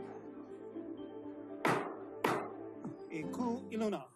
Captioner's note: gavel bangs twice